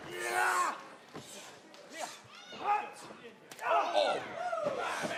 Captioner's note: crowd chatter